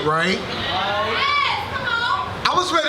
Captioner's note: audience cheers